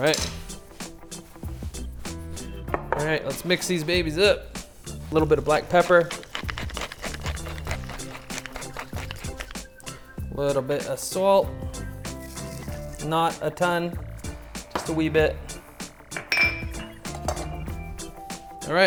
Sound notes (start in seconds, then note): 5.4 grinding; 15.7 soft upbeat music